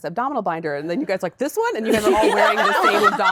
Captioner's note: laughter